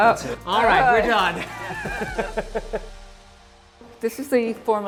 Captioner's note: laughs